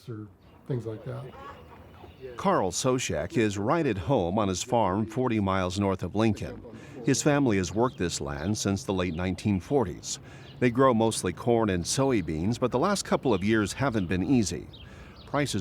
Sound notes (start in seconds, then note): 0.6 chickens clucking